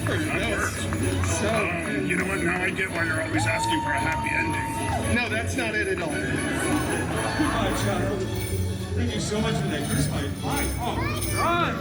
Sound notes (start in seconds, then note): 5.8 guests laughing